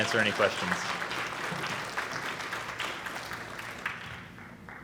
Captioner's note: audience applauding